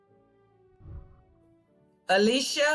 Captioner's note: whooshing